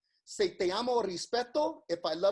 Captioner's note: speaks in foreign language